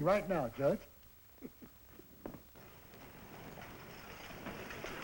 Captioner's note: chuckles